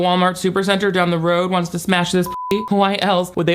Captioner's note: beep